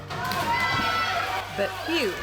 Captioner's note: cheering